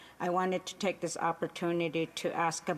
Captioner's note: speaking Indigenous Language